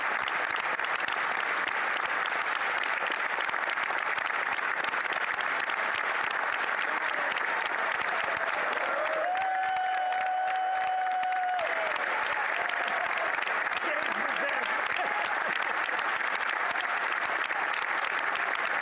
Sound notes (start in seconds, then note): 4.2 applause